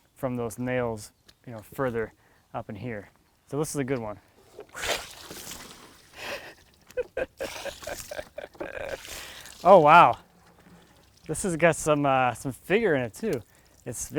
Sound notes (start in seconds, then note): 5.0 water sloshing; 6.8 laughs